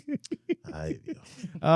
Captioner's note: laughing